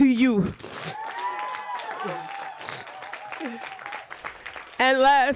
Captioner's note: applause